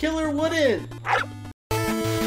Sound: bark

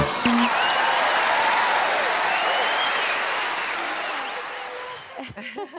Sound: cheers and aplauses

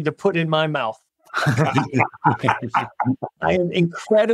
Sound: laugh

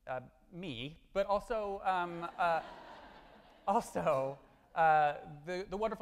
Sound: audience laughing

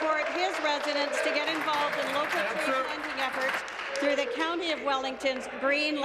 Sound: applause

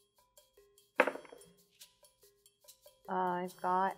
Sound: dice thudding

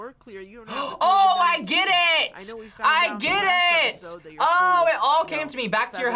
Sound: gasps

